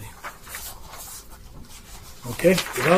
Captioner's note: papers shuffling